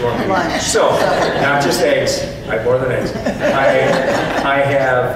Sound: audience laughs

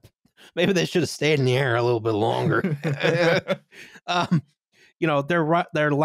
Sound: laughter

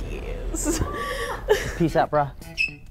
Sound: hollering quietly in background

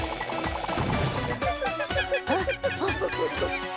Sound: monkey cries

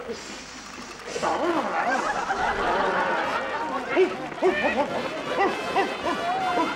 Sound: men growling, barking, and hissing at each other

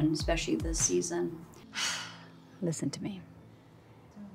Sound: sighs

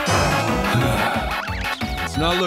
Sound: sighs

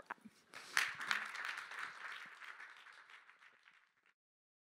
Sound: applause

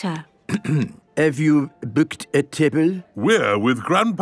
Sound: clears throat

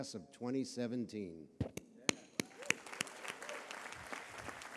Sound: applause

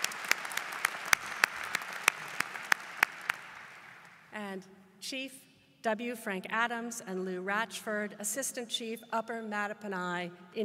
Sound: applause

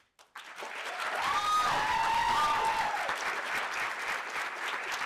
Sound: audience applauding

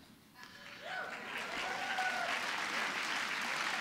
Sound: applause

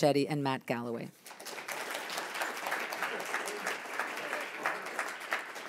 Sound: audience applauds

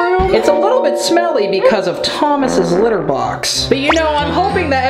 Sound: fart sound effect

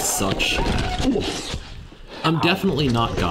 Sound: sound of bike hitting the ground, with "Oof! Ow."

